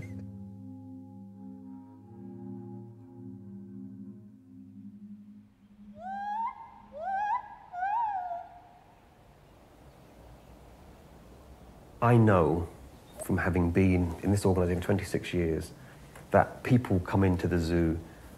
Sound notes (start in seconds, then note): 0.0 spherical music; 6.0 monkey shouting